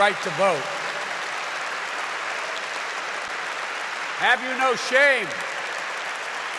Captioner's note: applause